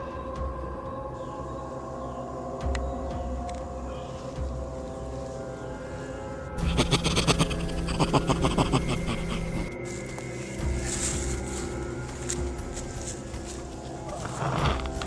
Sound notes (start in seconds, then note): 4.2 animalistic laughter; 4.2 birds